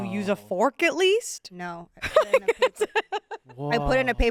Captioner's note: laughs